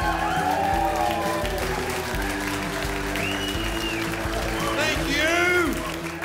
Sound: audience appluads

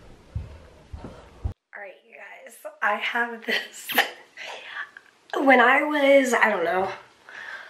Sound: chuckles

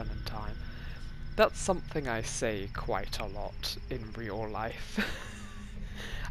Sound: laughs

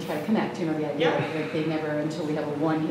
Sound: static drowns out talking

